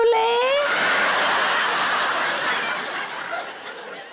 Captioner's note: audience laughs